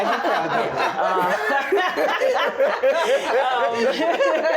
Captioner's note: group laughs